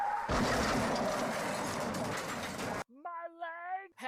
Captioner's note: tires screech; car crash